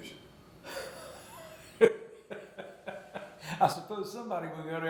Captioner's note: interviewer laughing